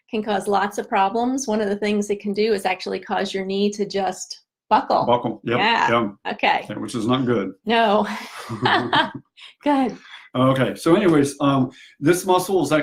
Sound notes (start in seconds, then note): 8.4 laughs